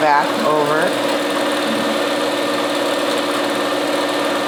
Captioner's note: machine whirring